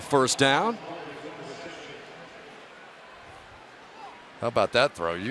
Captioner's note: pa announcement